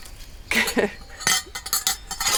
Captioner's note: chuckles